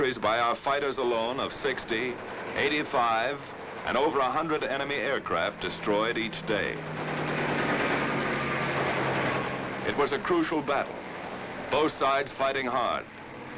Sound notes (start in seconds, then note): 7.5 guns firing